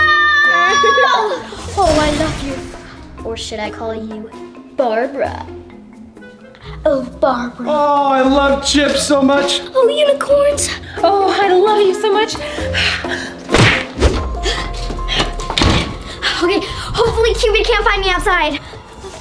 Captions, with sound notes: [Cupid laughing] Oh I love you, or should I call you Barbara? Oh Barbara! I love chips so much. Oh unicorns - Oh, I love you so much. [epic music] Hopefully Cupid can't find me outside.